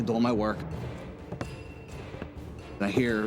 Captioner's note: footsteps